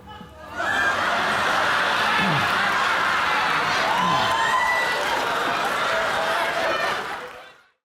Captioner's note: crowd audience erupts laughing